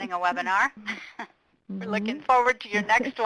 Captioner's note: presenters laugh